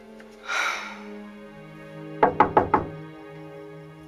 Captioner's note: sighing